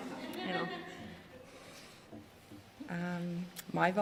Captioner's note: laughter